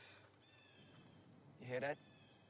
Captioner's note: distant bird shrieks